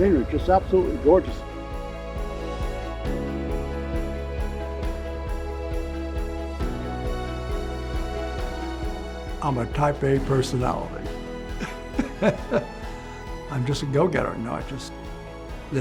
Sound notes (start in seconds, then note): 2.1 light surging orchestral music; 11.6 laughs joyfully